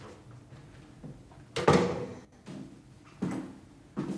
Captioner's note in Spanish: Sonido al cerrar la puerta